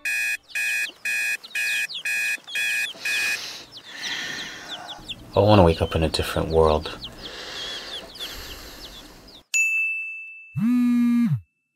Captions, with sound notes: [Alarm Clock And Birds Chirping] [Sighs] I want to wake up in a different world. [Sighs] [Text Notification And Vibrate]